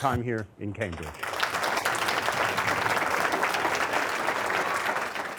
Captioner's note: applause